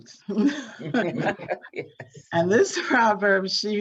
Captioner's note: both laughing